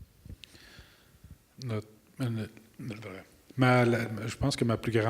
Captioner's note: enacting gibberish